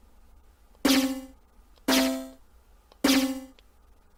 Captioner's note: twanging sound